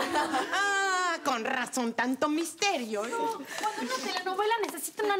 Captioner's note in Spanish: risas